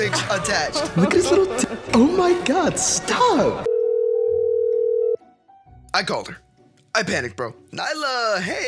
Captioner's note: girls laughing at phone